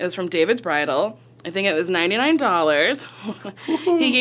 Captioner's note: laughs